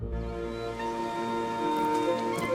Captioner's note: running water